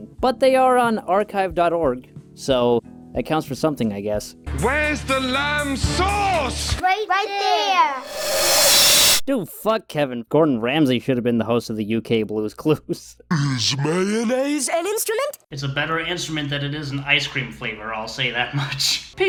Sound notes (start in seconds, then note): 13.2 Patrick Star, rising in pitch; 18.8 laughs